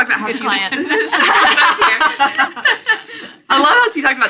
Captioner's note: laughing